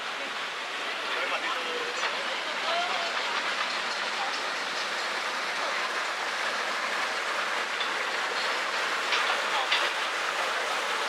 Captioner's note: gushing